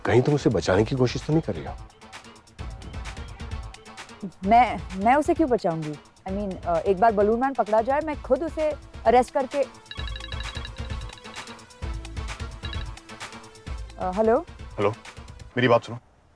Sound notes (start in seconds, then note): 9.7 phone ringing